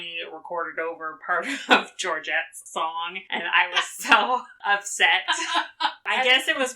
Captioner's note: laughs